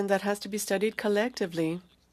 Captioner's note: speaking French